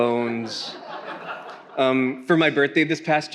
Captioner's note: attendees laughing